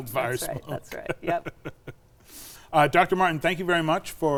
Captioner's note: laughs